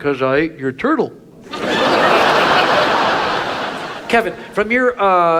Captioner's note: audience laughs